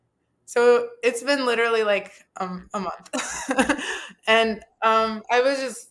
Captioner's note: laughs